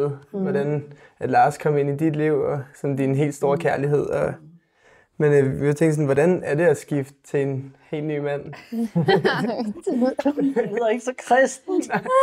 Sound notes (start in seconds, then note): 8.6 laughter; 11.5 laughs